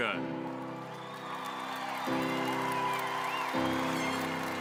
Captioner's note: audience cheering